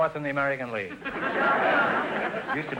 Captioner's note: audience laughter